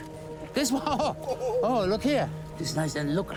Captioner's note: laughs